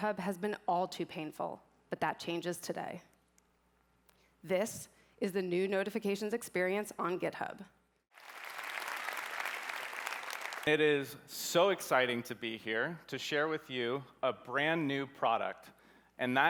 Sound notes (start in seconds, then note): 8.1 applause